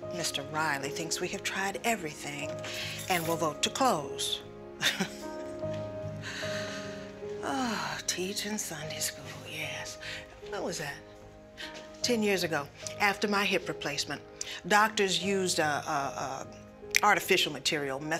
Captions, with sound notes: Mr. Riley thinks we have tried everything and will vote to close. (chuckles) (sighs) Teaching Sunday school, yes. When was that? 10 years ago, after my hip replacement. Doctors used a artificial material,